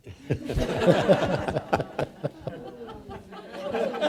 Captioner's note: all laughing